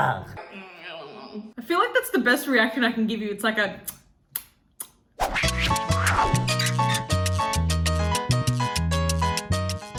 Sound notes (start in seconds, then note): 3.8 kissing; 5.2 upbeat music